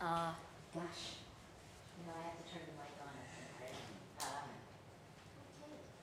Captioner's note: Maria speaking off the mic